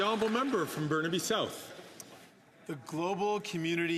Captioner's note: some Applause